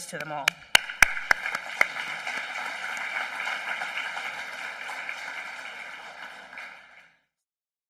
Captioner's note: applause